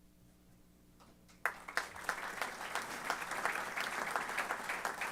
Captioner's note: applause